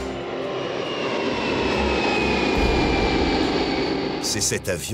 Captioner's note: sound of airplane engines taking off